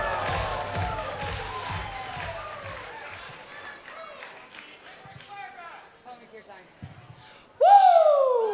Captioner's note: cheers and applause